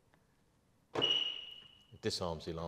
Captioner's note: chirp